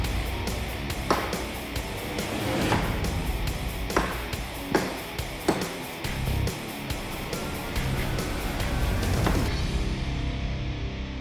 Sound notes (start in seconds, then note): 1.5 chopping